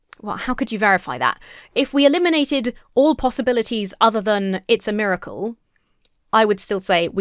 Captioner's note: none